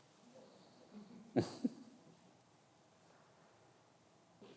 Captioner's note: laughs